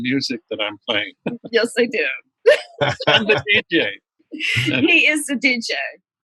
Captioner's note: laughter